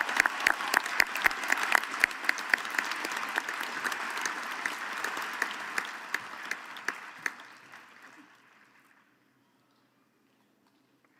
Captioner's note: applause